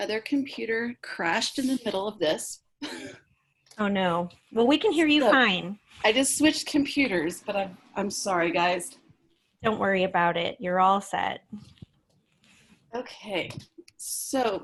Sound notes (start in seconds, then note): 2.8 laughter